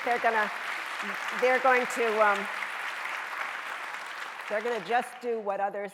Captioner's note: audience applauding